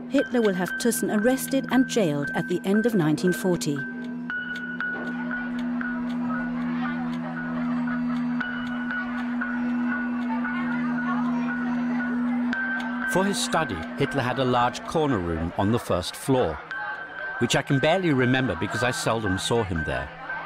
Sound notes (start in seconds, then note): 5.6 children chattering; 5.6 suspenseful music